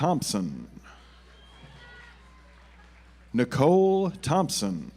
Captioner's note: audience applauds